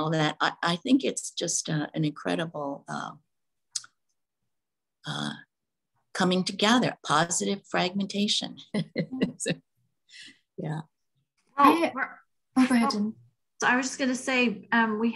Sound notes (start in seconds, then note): 8.8 laughing